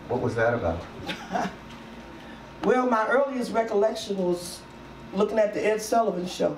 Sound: laughs

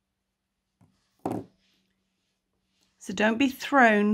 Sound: hook bangs on table

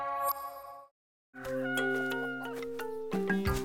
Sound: rooster crowing; hen clucking

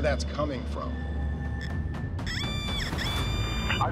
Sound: metal detector squealing

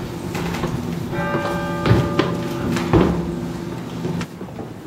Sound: bell tower ringing

